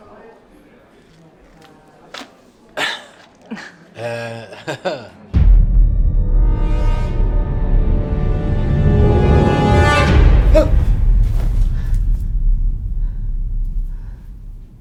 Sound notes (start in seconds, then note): 4.6 laughing; 5.4 ominous orchestral music; 10.4 moaning